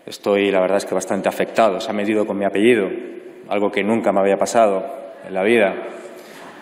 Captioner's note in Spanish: risas